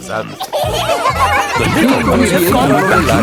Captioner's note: kids giggling